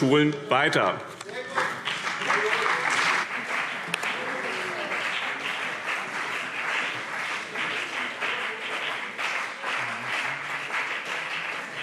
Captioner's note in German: Beifall BÜNDNIS 90/DIE GRÜNEN und CDU